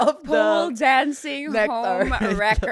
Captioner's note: laughs